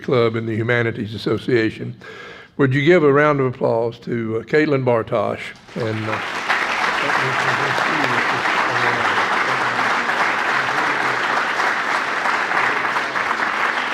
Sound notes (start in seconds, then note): 5.6 audience applauds